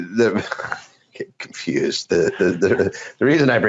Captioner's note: laughing